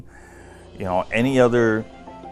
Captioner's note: air whooshes